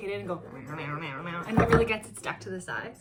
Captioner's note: makes mushing noise